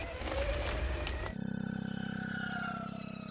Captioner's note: whirring; melodic whirring